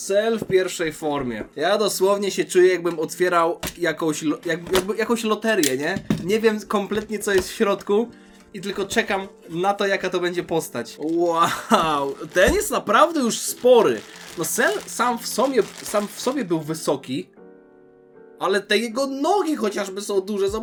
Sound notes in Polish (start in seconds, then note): 11.4 śmiech